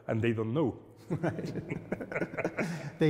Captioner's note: laughter